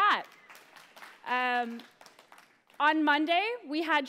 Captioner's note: applause